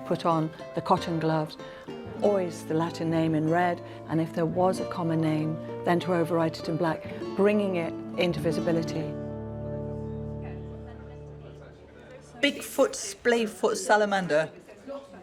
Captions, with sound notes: to put on the cotton gloves, always the Latin name in red, and if there was a common name, then to overwrite it in black, bringing it into visibility. [indistinct chatter] Bigfoot splayfoot salamander.